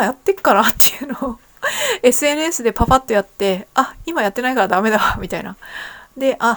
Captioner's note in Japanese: 笑い